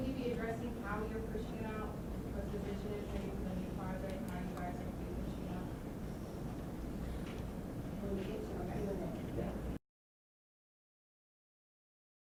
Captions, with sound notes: - [Voiceover] Will you be addressing how you're pushing out. (talking in background)